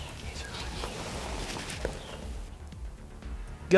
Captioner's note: whispering